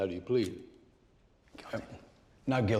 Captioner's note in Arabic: همس